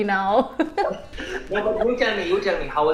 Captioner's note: both laughing